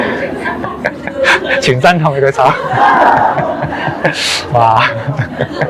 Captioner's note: laughter; 笑聲